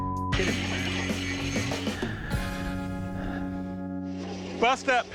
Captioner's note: sighs shakily